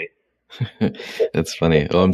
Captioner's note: chuckles